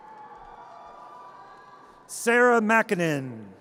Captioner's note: audience cheers